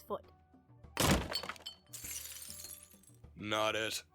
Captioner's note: smash